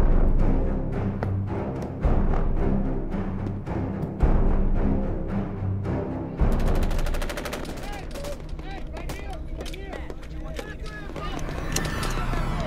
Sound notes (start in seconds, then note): 0.1 dramatic music; 6.5 guns firing